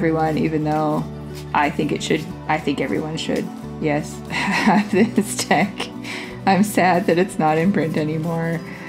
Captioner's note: laugh